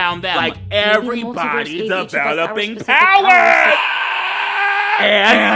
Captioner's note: screams